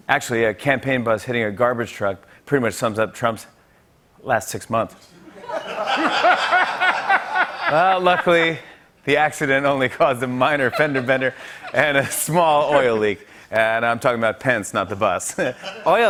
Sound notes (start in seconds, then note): 5.2 laughter